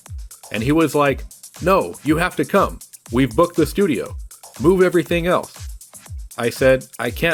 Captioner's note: horrified yelp